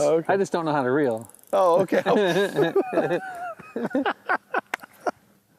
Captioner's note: laughing